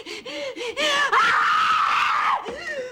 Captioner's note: screams